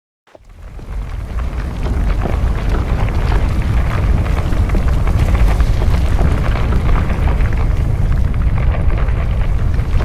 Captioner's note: earth rumbling